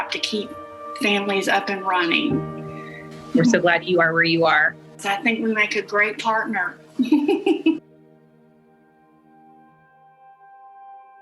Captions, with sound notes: to keep families up and running. - We're so glad you are where you are. - I think we make a great partner (laughs).